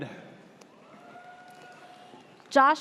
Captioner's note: audience cheers